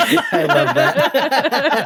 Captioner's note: all laughing